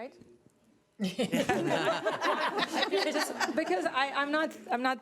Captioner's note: laughing